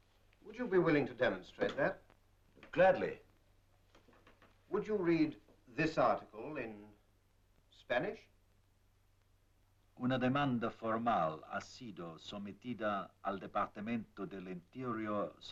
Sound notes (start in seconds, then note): 9.8 in Spanish